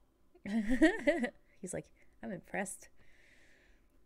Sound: laughs

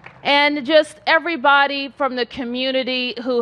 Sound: applause

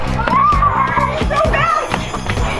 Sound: cheering

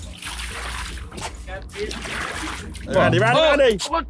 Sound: waters splashing

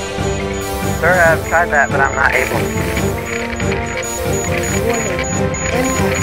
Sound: static

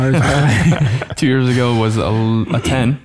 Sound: all laughing

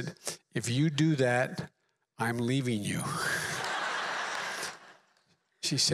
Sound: laughter

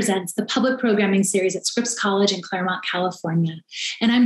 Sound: none

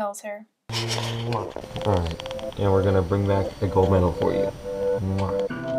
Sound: kiss sound

